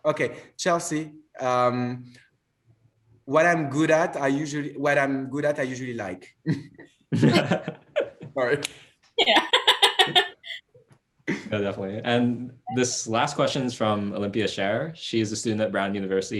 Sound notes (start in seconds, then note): 6.3 laughs